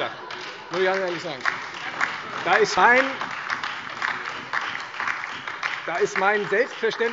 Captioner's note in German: Heiterkeit und Beifall Freie Demokraten, AfD, DIE LINKE und vereinzelt SPD